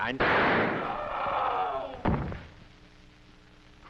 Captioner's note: bang; man screaming; thud